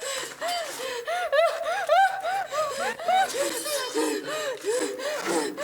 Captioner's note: victim whimpers; rapid gasps